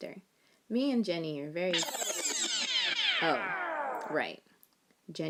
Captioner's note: record rewind sound effect